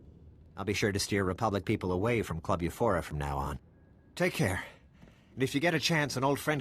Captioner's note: none